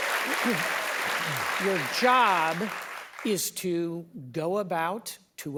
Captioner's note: applause